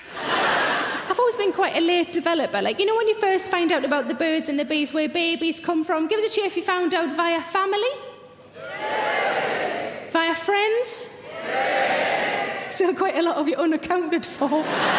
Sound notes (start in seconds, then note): 0.0 audience laughing; 8.6 audience cheering; 11.4 audience cheering